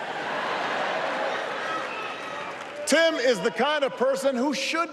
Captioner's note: applause